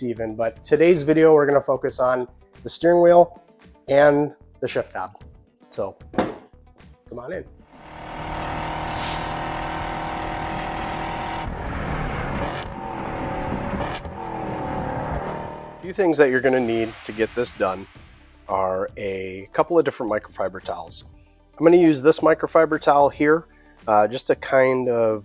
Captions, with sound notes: even but today's video we're going to focus on the steering wheel and the shift knob, so come on in. [Roaring V8 Engine Accompanied by Bald Eagles] a few things that you're going to need to get this done are a couple of different microfiber towels I'm going to use this microfiber towel here just to kind of